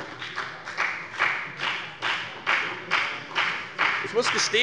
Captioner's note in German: Beifall bei der FDP